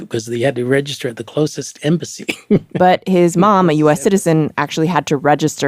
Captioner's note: laughs